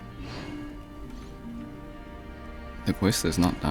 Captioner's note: sigh